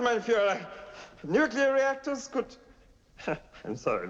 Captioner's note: laughing